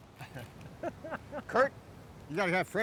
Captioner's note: laughing